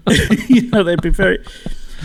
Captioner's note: laughing